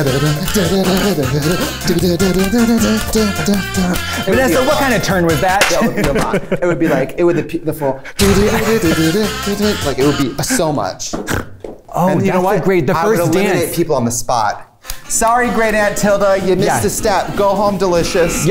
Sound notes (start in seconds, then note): 0.0 hums; 5.6 thud, laughter; 8.6 hums; 11.2 laughs, snorts